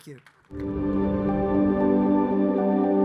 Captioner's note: audience applauding; gentle music